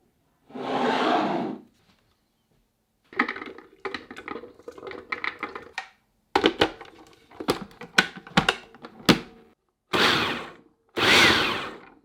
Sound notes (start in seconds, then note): 3.2 nuts dropping; 11.0 processor pulsing